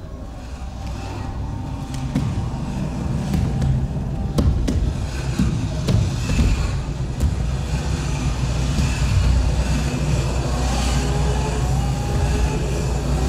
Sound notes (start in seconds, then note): 0.2 dramatic instrumental music; 4.5 plastic thudding